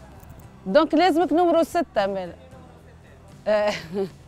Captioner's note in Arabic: ضحك